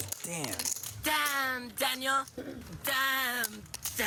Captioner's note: voiceover